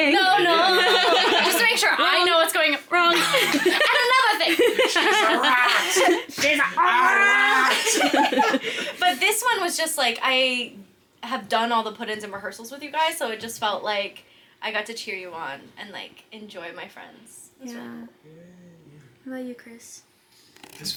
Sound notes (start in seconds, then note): 0.1 actors laughing; 3.0 laughs; 8.0 cast members laughing